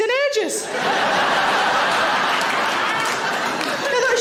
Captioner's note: audience laughing